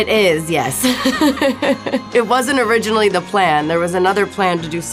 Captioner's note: laughs